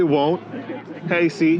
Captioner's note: ha Ha